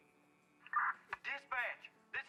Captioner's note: police radio squawking